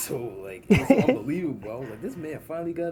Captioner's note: laughs